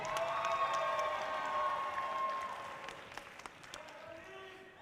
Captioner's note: audience cheering loudly